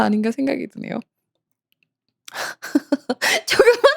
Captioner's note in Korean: 웃음